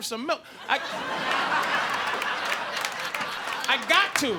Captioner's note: audience laughing